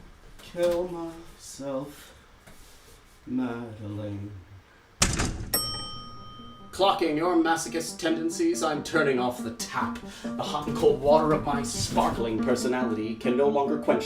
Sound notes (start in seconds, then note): 4.9 elevator ding